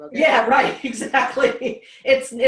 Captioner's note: laughs